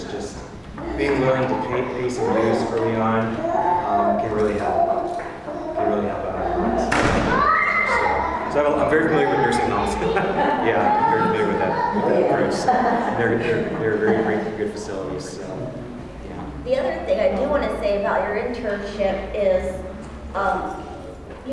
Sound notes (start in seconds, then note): 10.2 laugh